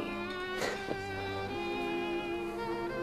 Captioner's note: laughs